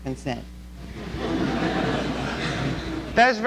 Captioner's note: laughter